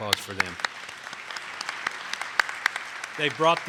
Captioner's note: attendees clapping